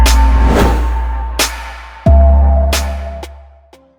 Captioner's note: logo whoosh; slow beat music